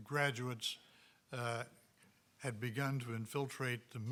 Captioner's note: none